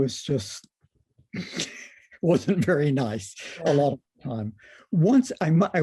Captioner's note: laughter